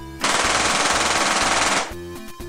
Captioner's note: gunshots